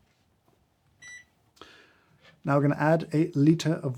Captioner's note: scale beeps